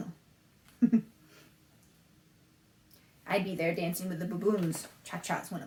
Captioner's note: laughs